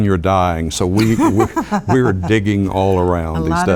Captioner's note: laugh